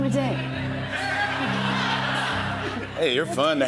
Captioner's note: laughter